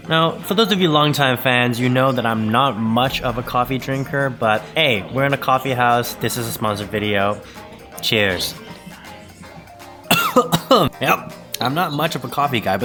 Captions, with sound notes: Now for those of you longtime fans, you know that I'm not much of a coffee drinker, but aye We're in a coffee house. This is a sponsored video Cheers *cough* Yep, I'm not much of a coffee guy